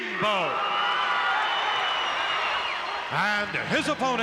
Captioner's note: crowd cheers